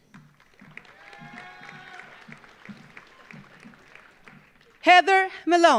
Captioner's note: audience applauding; audience cheering